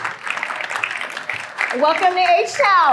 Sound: applause

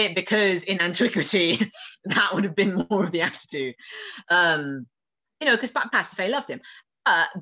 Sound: laughing

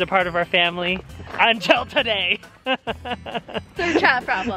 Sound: laughs

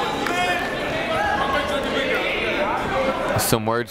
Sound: whistle; chatter

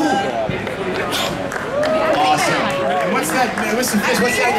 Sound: audience clapping

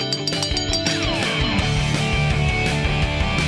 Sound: bell ringing

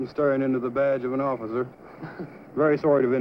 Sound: laugh

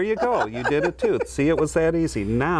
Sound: laughs

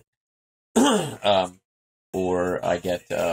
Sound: clears throat

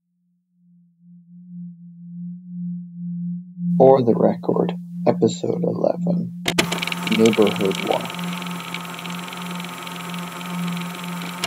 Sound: tape recorder static and music begins

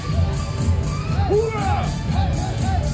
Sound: army noises

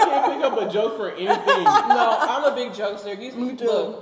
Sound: laughing

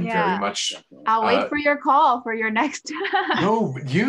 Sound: laughs

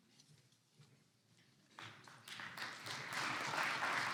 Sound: clapping

